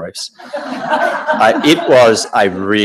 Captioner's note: audience laughing